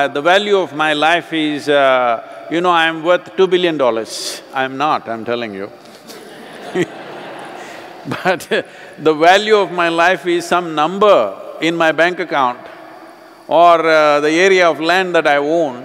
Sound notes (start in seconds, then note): 6.0 laughter